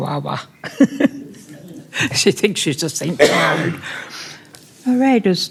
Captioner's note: laughter